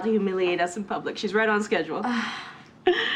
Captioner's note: sighs